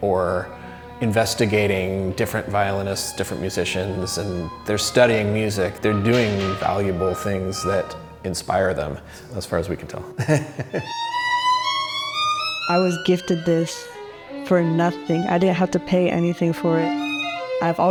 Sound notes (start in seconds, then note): 9.9 laughs